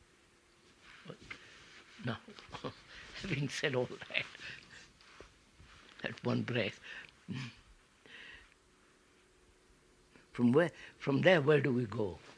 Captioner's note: laughs